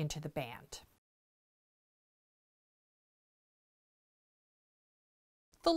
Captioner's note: no Sound Present